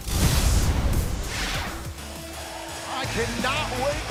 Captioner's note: crowd cheering